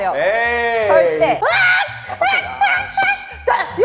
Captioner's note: keeps screaming